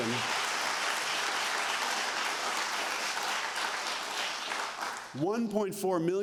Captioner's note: applause